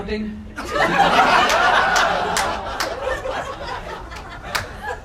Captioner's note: crowd laughing